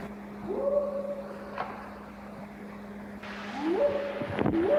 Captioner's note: Bigfoot howling